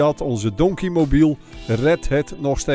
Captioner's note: voiceover